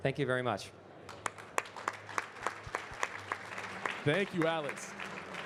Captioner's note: audience clapping